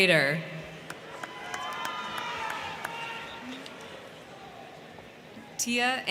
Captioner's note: crowd cheering; crowd clapping